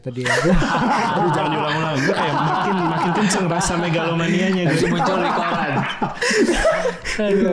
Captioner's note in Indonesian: tertawa